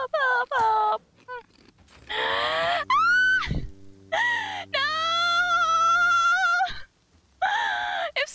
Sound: deep inhale, screeches

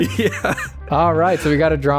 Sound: laughter

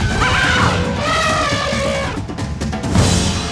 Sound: elephant horns

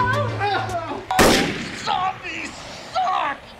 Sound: blam!

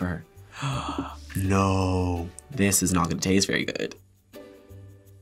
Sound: gasps

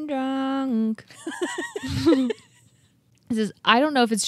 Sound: chuckling

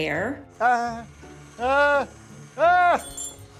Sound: groans

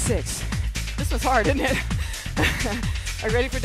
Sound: laughs

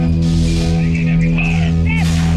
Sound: SOUND: alarms blare, laser rounds impact HWK; shooting turret

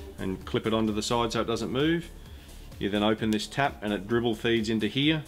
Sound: none

